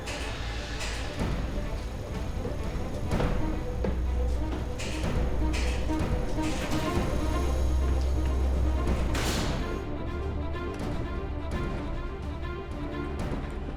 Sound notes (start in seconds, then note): 0.0 elevator whirring; 0.0 loud eerie music; 1.2 tense dramatic music; 9.5 door thuds; 10.5 tense dramatic music